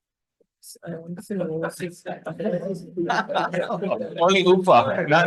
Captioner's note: attendees chattering and laughing